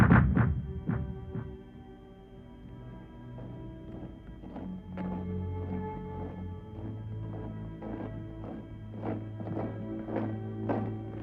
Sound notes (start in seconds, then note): 3.8 footsteps thudding; 3.8 melancholic music